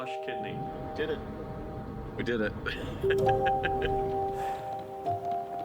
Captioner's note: laughs